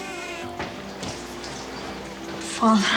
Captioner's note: door creaks; door closes